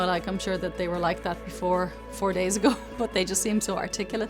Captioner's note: chuckles